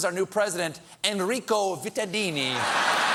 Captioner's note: applause